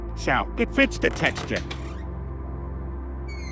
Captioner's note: door opens